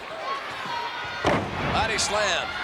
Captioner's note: body slams